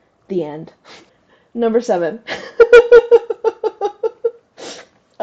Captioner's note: laugh